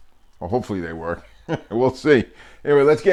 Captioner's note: laughing